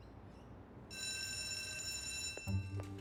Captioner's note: bell rings